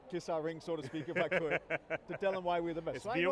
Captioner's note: laughs